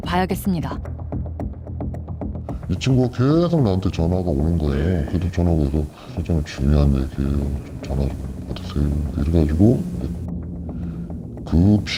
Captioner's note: voiceover